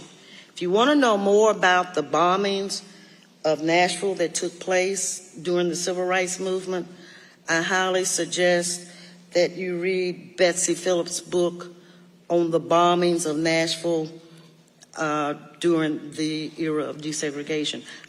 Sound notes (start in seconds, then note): none